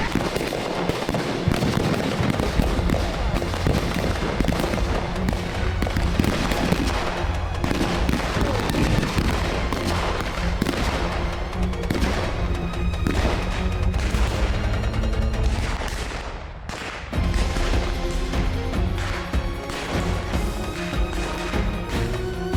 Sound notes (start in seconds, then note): 0.1 guns continue banging; 0.1 suspenseful music continues; 10.0 guns continue banging; 10.0 suspenseful music continues; 17.1 lively music; 17.5 guns continue banging